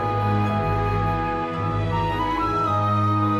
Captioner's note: none